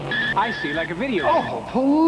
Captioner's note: tires screeching